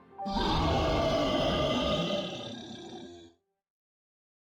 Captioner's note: Sasquatch roaring